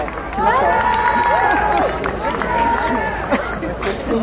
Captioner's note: crowd cheering